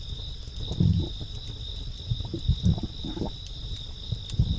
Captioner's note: crickets chirping; throat loudly swallowing